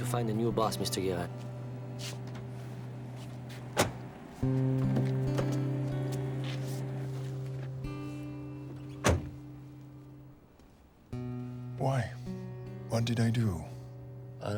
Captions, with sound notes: - You'll have to find a new boss, Mr. Guerin. (doors shut and open) (door slams) - Why? What did I do?